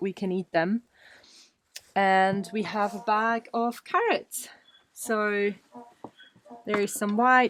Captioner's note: donkey noise in the background